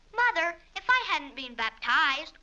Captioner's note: none